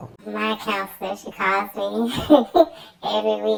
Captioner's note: laughs